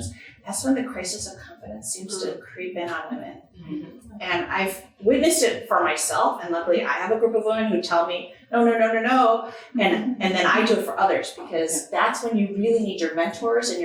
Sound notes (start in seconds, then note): none